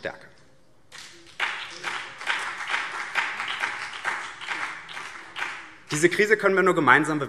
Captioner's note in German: Beifall BÜNDNIS 90/DIE GRÜNEN und vereinzelt CDU